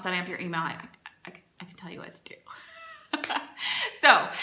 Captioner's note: laughs